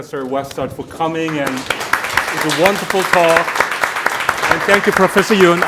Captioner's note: audience applauding